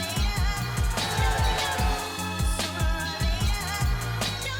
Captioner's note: crowd cheers